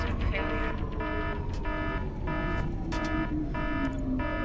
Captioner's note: alarm